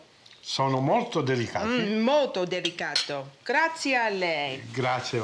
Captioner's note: speaking Italian